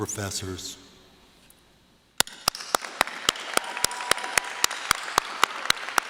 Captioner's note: applause